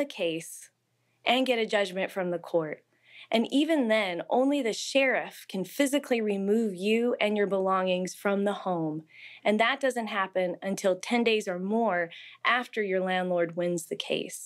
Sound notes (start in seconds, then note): none